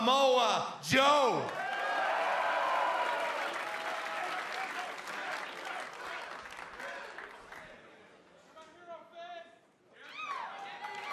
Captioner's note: cheers and applause